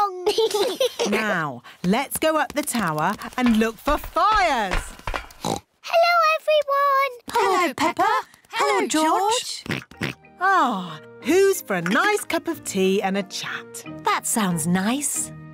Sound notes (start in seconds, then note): 0.2 laughter; 5.4 oinks; 9.6 oinks